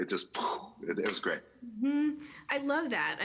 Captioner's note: mouth sound